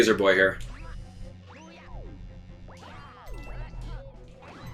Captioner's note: Luigi bouncing